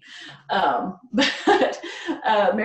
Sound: laughs

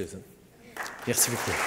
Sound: applause

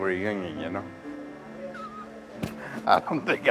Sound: laughs

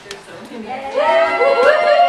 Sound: cheering

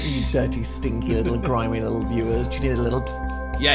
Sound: laughs

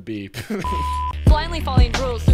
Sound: laughing; video beeps

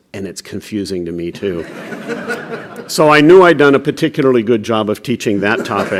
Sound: laughter

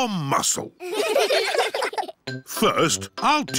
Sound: all giggling

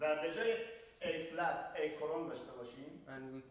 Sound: speaking in farsi

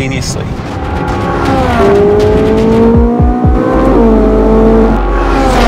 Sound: engines rumbling

